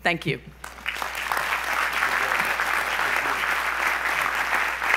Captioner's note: audience applause